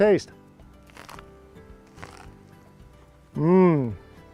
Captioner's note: crunch